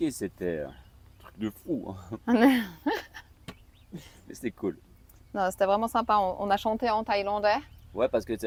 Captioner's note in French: rires